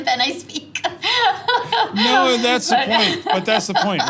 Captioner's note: laugh